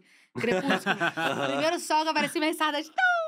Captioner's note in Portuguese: risos